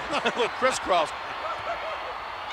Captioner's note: gorilla laughing